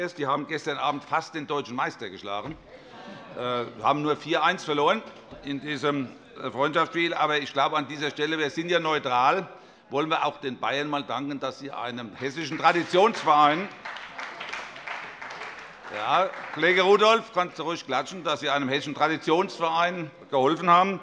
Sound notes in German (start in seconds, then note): 14.1 Allgemeiner Beifall